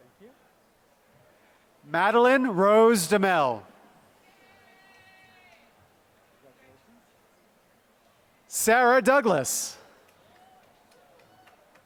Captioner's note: applause